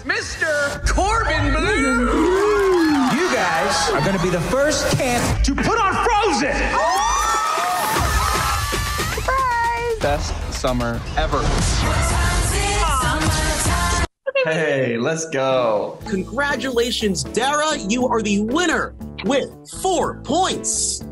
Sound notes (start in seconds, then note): 6.0 crowd cheers